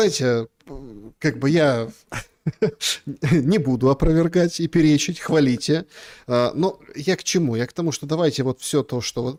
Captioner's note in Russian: смех